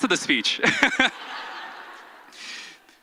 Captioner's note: audience laughs